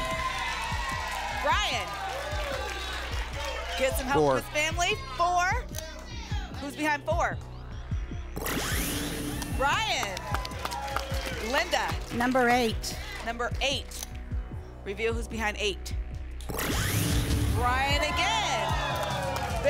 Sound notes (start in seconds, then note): 0.0 applause and cheering; 9.3 applause; 17.8 applause and cheering